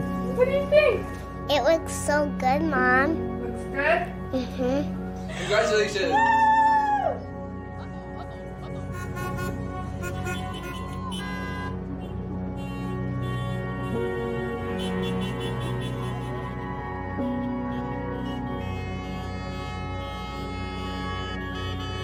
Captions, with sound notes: What do you think? It looks so good, Mom. Looks good? Mmhmm. Congratulations Wooo! [car horns honking]